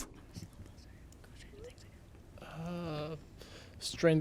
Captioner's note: contestants whisper